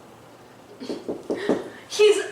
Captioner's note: door knocking